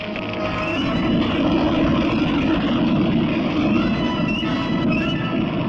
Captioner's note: explosion